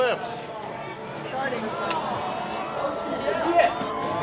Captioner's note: people exclaiming